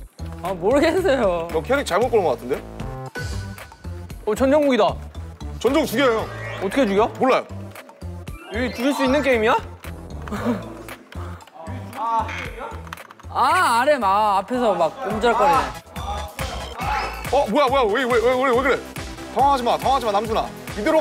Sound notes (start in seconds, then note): 10.2 hehe hehe